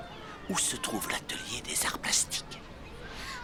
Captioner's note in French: chuchotant